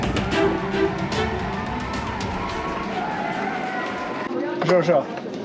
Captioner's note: applause